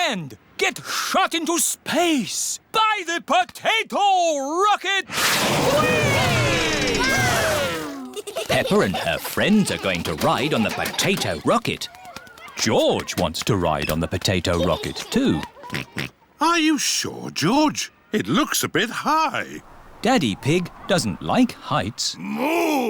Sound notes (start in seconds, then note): 15.7 oinks